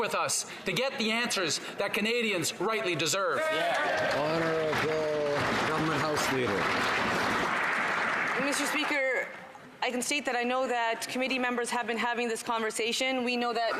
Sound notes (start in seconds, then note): 6.4 some Applause